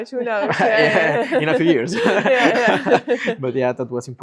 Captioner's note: group laughs